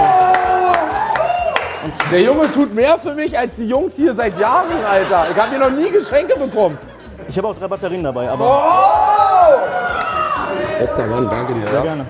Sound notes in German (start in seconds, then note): 0.0 Jubel, Applaus; 8.4 Jubel